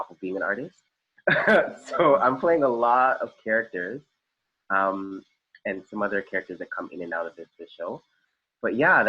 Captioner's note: laugh